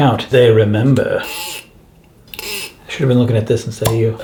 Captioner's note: corkscrew squeaking